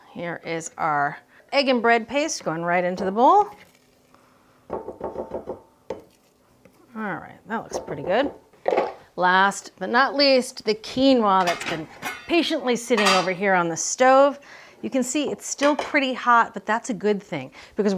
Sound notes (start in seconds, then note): 5.1 spoon thumping